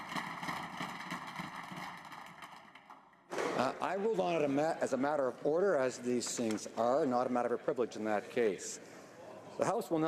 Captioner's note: applause